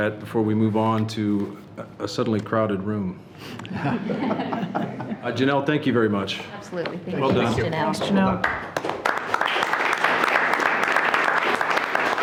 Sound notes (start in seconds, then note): 3.6 people laughing; 8.3 everyone clapping